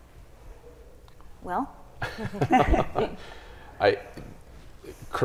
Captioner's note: chuckles